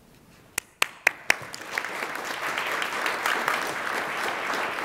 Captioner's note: attendees applaud